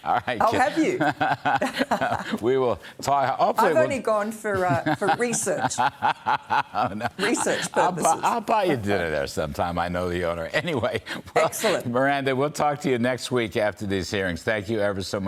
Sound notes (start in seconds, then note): 11.1 laughter